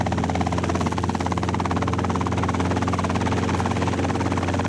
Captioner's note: helicopter rotors whirring